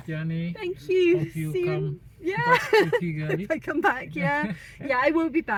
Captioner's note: laughing